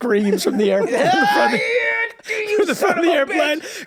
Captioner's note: Charlie yelling